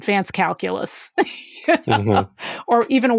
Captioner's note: laughs